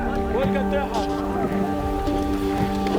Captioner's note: speaking Arabic